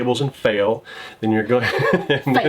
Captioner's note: laughing